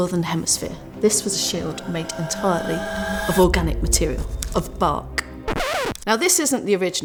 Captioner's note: music builds; record player scratch